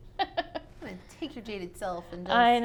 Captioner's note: laughs